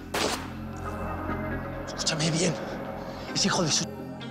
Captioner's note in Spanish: Disparos